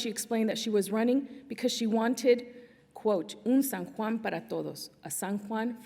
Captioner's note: non-english speech